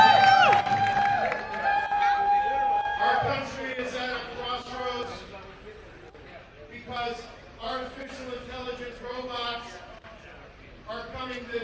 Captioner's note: cheers and applause